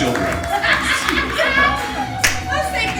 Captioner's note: laughing